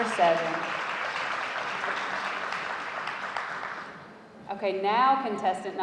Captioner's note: audience applauding